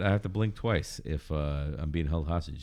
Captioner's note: uh